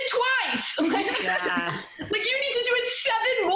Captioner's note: laughing